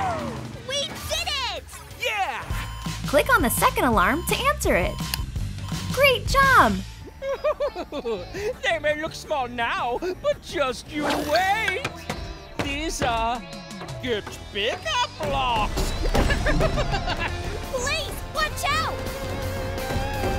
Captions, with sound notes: - We did it! - Yeah! Click on the second alarm to answer it. Great job! [laughing] They may look small now, but just you wait! These are Get Bigger blocks! [laughing] Blaze, watch out!